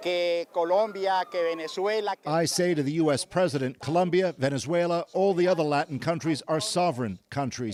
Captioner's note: speaking alternate language